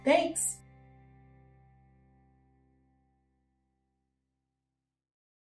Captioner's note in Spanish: Silencio